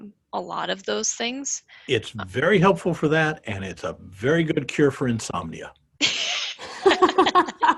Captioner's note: all laugh